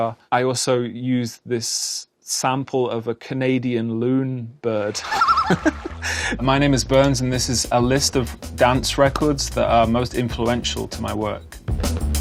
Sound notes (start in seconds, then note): 4.9 laughing; 5.1 canadian loon singing